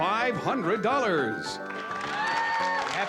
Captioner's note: cheering